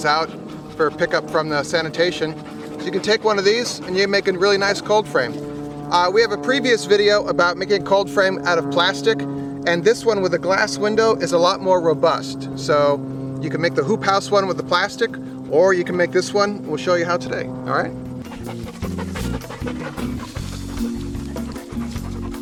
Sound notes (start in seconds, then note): 18.3 upbeat music; 18.4 dogs panting